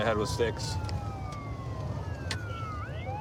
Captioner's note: sirens wailing